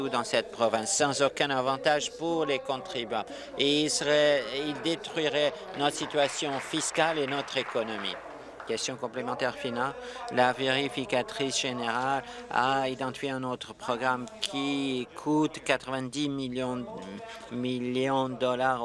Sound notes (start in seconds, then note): 10.0 applause